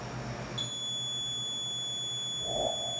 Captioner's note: beeping